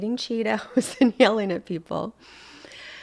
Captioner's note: laughing